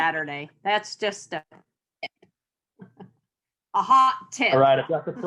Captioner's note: chuckles